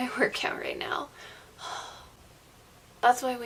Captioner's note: sighs